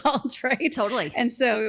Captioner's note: laughs